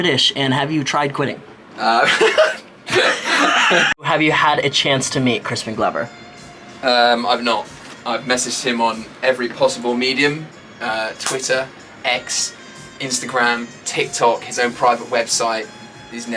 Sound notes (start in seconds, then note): 2.9 laughs